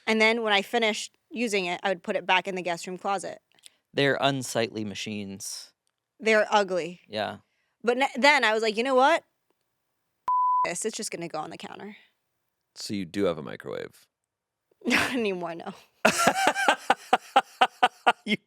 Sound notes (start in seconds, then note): 10.3 beep; 16.0 laughing